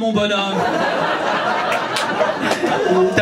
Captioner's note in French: rires public